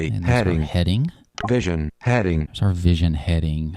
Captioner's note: electronic Voice